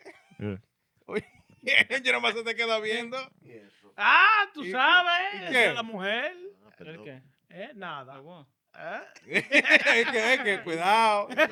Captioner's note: speaking In Foreign Language